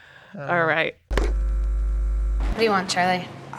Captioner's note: VCR buzzing